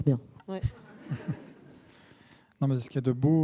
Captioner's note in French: rires